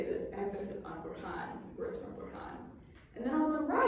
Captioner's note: non-english speech